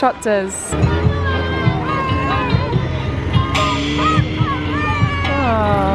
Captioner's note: children chatter; snowmobile engine rumbles